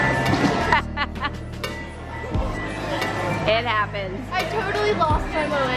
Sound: laughs

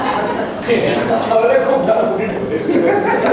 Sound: cracking jokes

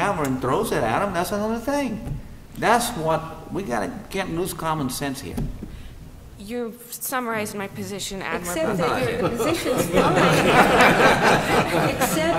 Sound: laughter

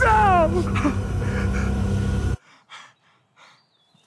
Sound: panting

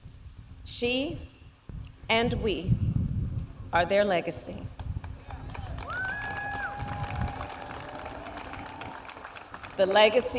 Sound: applause

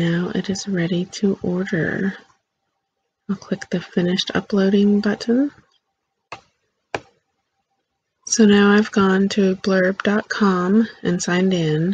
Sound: click

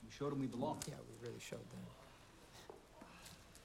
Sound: Raj whispering

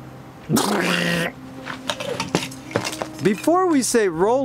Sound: blows raspberry

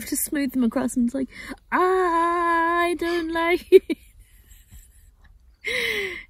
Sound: laughs hard, but silently

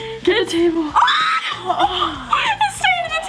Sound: screaming

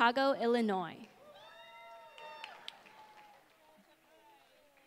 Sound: applause

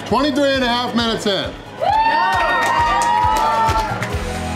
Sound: crowd clapping and cheering

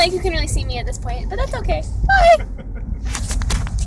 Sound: laughs

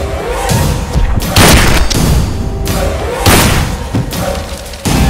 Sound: gunshot

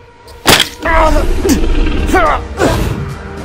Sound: Smack sound.....Ian Yelps

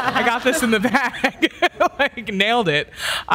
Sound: panelists laughs; laughs

